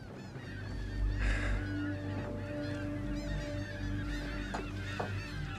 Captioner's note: seagulls continue mewing